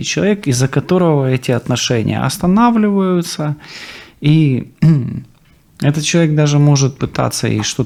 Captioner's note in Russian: откашливается